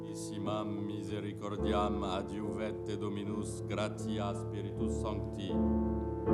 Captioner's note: somber music; priest speaking in Latin